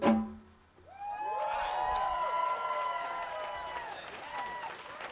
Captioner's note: applause